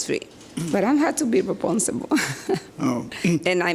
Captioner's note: laughs